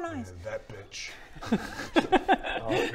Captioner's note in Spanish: risas irresponsables